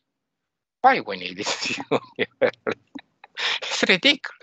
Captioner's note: laughing